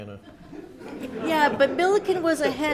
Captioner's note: audience laughs